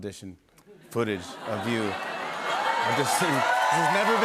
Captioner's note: cheers and applause